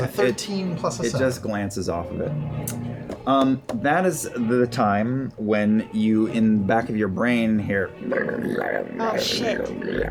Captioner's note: gurgling noises